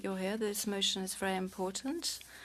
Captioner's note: speaking French